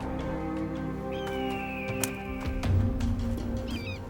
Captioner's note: bird cawing